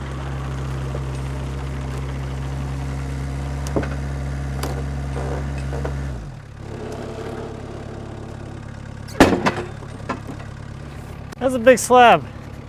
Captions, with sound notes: (log clatters) That's a big slab.